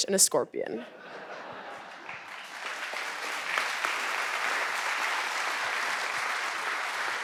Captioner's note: audience laughing; audience applauding